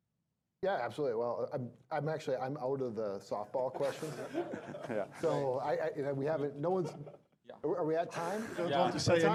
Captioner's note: laughing